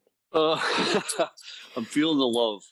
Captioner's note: laughing